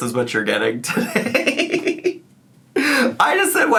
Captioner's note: laughing